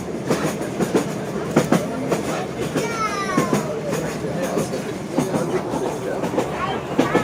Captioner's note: rail Sound